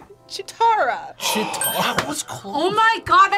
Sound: gasps

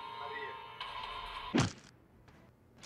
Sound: crack

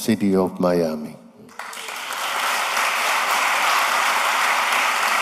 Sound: applause

